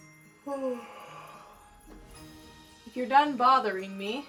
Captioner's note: Arizona yawns